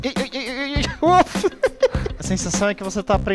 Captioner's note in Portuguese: risos